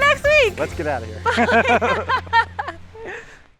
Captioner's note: laugh